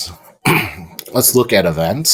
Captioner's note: clears throat